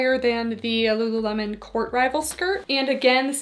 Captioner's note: none